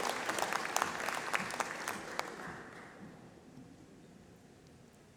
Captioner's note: applause